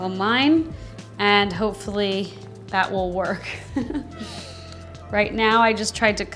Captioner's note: chuckles